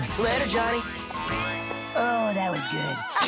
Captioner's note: giggles